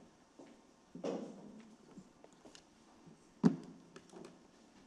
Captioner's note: object thuds